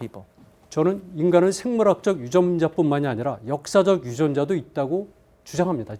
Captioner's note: speaking in Korean